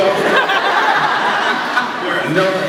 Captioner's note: laughs